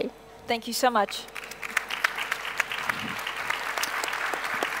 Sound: audience claps

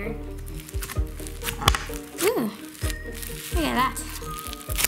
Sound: floam crunching

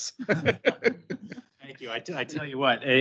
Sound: group laughs

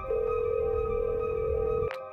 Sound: phone rings

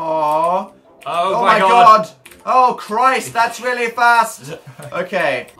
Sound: sniggers

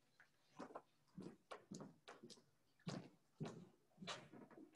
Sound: footsteps clanging

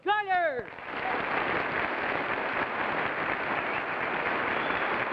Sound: audience applauding

